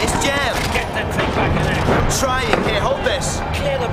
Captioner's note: speaking foreign language